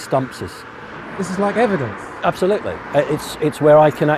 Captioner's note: voiceover